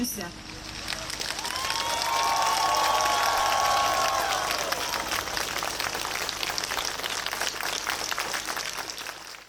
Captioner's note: applause